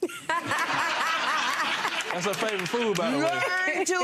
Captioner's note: laughter